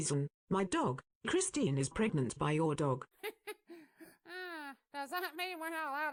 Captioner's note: chuckles